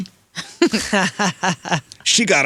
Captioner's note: laughing